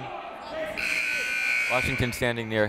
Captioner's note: buzzer